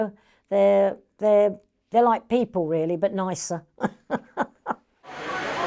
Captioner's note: chuckles